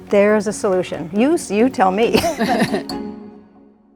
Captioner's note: laughs